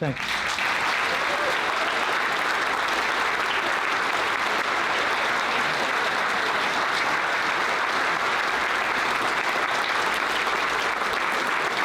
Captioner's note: applause